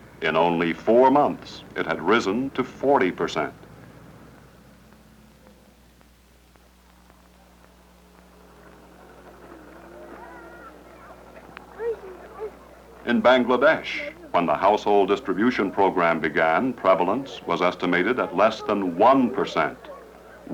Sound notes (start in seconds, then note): 10.8 chatter